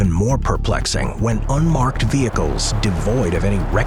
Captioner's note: car engine whirring